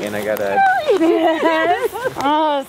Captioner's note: laughs